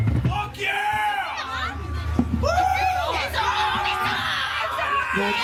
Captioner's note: crowd cheering